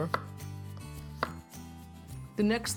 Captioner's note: chopping